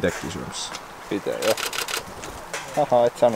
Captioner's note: camera shutter sounds